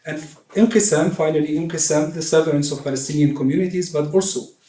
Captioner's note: non-english speech